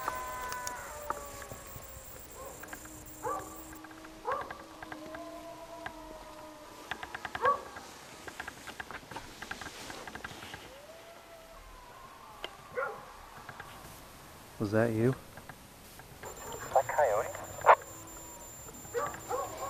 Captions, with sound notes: (animal crying) (dog barking) (distant howling) Was that you? Was that coyote?